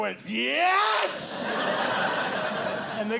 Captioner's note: audience laughing